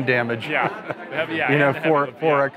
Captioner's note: laughs